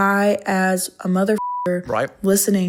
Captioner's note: beeping